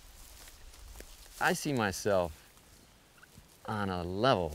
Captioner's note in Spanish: hierbas crujiendo